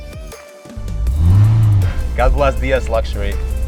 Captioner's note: car engine roaring